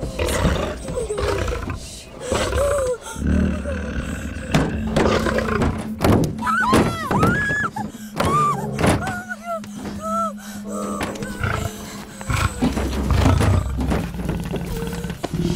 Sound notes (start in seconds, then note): 0.3 Whimpering; 6.1 Rattling; 6.4 Screaming